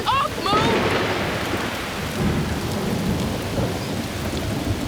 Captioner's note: thunder booming